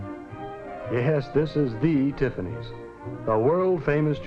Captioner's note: chuckles